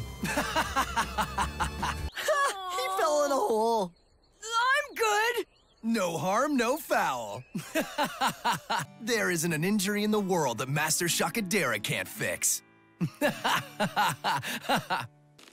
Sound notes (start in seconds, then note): 0.2 laughing; 7.5 laughing; 13.0 laughing